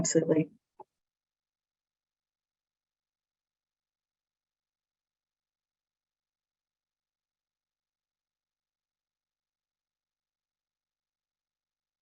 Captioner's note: silence